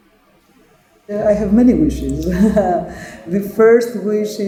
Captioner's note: laughing